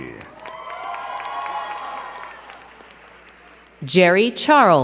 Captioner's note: crowd cheering and clapping